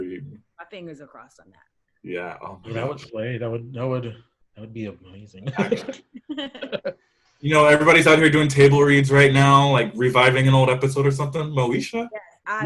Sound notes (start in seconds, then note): 2.1 static drowns out